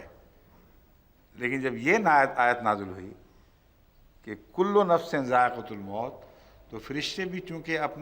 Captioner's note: Arabic